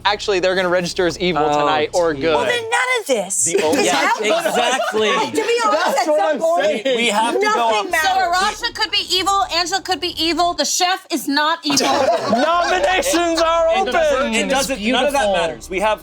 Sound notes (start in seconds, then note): 3.5 laughing; 11.6 group laughing